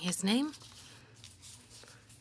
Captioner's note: speaking French